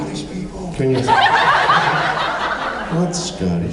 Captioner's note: laughs